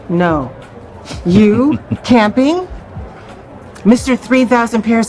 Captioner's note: Ian laughing